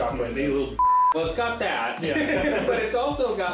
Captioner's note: laughing